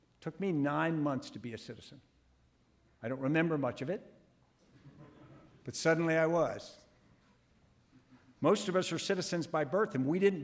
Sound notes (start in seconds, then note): 4.8 audience laughing